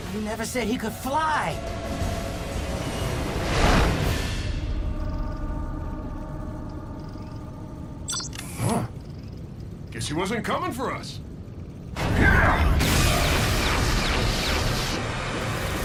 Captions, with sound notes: You never said he could fly. Huh? Guess he wasn't coming for us. (RUMBLING)